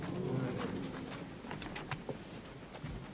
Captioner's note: groaning, muttering